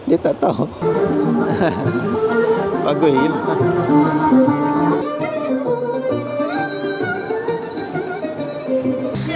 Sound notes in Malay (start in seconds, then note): 1.3 ketawa